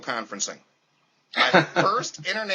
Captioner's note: laughter